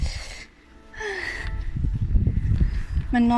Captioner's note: sigh